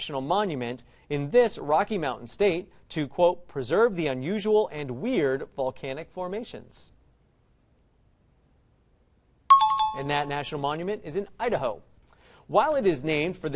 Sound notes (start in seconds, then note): 9.5 time chime